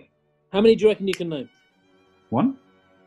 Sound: clicks finger

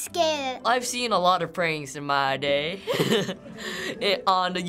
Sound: chuckles

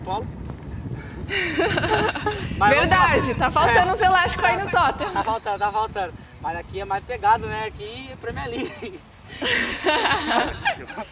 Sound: laughs

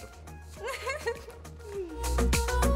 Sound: chuckling; upbeat music

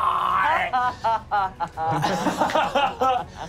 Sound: laughing

